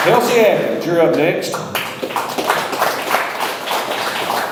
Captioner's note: audience applauds